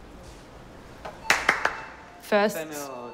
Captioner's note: speaks foreign language; claps